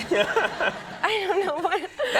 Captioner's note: audience laughing